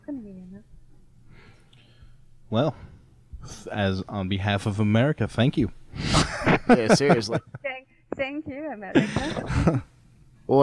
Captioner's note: all laughing